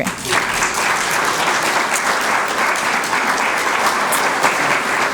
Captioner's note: applause